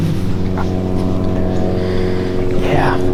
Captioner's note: lawn mower engine